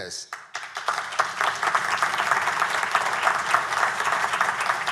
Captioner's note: audience applauding